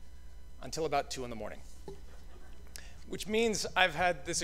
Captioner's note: laughter